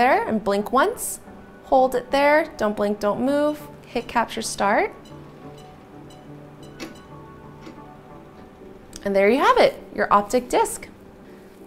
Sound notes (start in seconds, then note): 4.6 machine beeping; 5.1 upbeat music continues